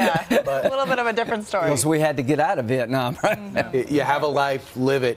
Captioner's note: laughter